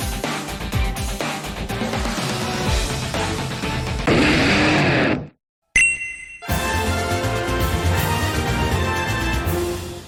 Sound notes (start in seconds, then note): 4.1 Squrilla's Cry; 6.3 congratulations Music